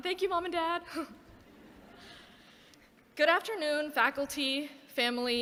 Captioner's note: laughter